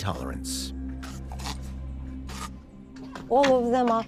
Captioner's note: snarling